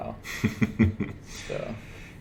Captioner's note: laughs